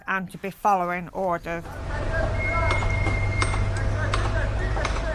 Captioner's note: whistle, orders being shouted, a working dockyard